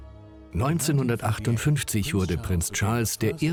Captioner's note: voiceover